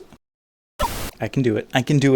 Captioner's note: static